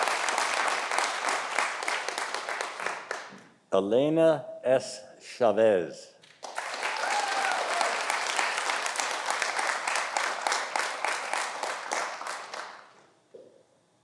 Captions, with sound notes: Elena S. Chavez. (audience applauding)